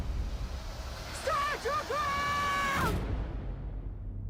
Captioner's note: yelling